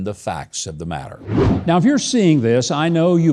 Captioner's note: wind whooshing